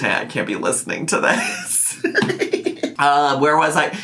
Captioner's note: laughing